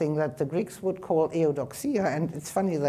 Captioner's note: speaking in foreign language